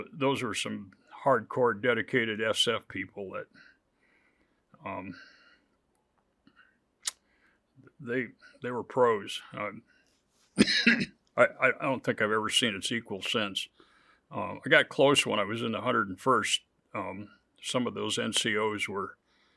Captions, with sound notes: those were some hardcore dedicated SF people that they were pros. (coughs) I don't think I've ever seen its equal since. I got close when I was in the 101st, some of those NCOs were